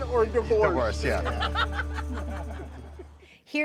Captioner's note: John laughing